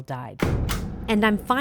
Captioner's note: stamp clicks